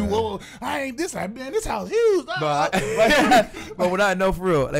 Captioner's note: laughs